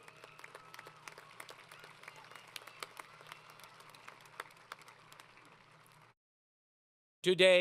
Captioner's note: applause